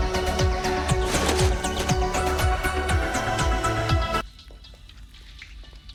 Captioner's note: tarp rustles